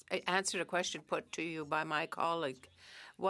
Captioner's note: speaking French